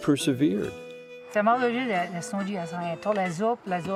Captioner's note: speaking in Walloon